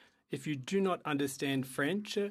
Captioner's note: speaking French